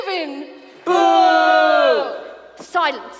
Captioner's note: kids boo